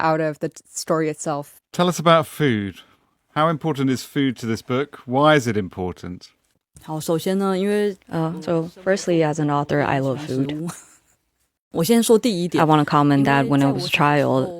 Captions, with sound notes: out of the t- story itself. Tell us about food. How important is food to this book? Why is it important? Uh, so firstly, as an author, I love food. [laughs] I wanna comment that when I was a child,